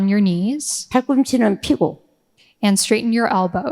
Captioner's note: speaking in foreign language